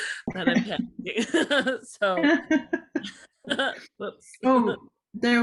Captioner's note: laughter